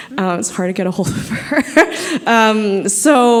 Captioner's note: laughing